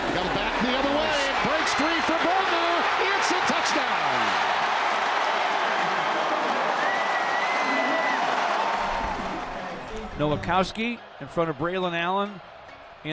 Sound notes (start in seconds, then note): 4.8 crowd cheers